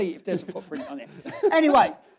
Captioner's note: laughs